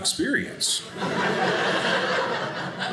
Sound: audience laughing

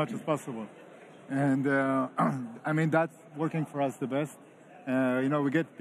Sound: clears throat

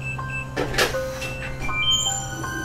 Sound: door's opening

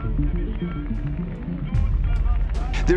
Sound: announcer talking

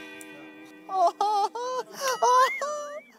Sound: laughing

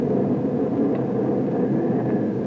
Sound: thunder rolls

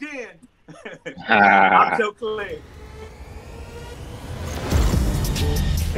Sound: laughs

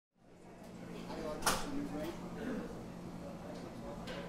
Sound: background noise of people talking

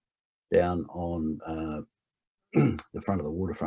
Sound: clears throat

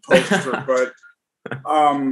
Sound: chuckles

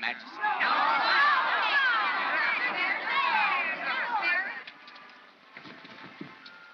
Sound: crowd jeering

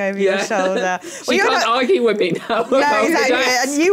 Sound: laughs

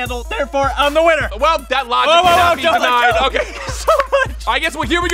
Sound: laughing

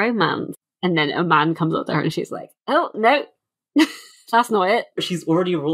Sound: laughs

